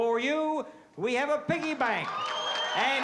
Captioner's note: applause